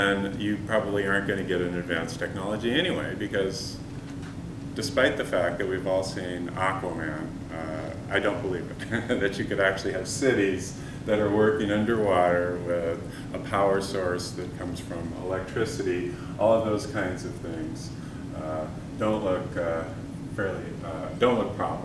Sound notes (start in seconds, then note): 8.8 chuckle